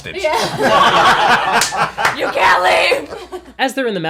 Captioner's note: all laugh